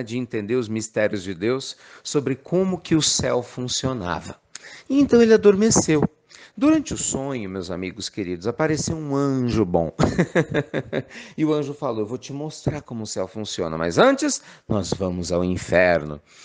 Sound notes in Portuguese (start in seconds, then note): 10.0 risos